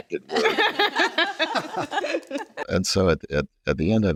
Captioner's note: all laughs